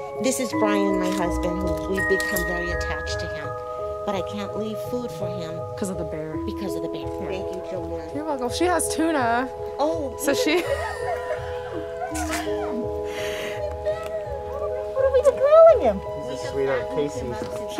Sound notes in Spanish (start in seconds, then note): 10.5 Risas; 13.6 Charla infantil